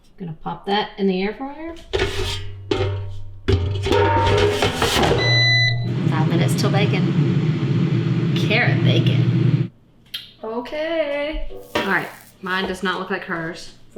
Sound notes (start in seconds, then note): 3.4 air fryer clanging; 4.0 air fryer whirring; 4.9 air fryer beeping